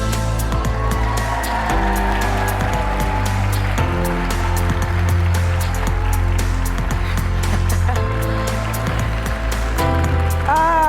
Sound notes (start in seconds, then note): 0.1 light ambient music; 2.2 audience cheers and applauds; 6.5 chuckling